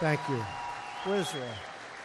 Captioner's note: applause